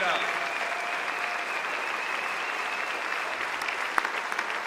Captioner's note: audience applauds